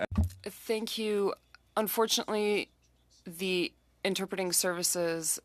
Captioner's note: speaking French